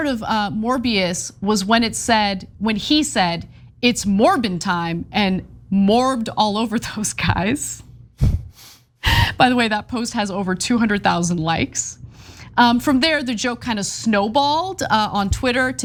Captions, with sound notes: the best part of Morbius was when he said it's Morbin time and morbed all over those guys [LAUGH] by the way that post has over 200,000 likes. From there, the joke kind of snowballed on Twitter,